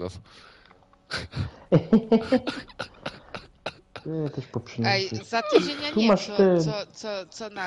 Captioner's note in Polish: śmiech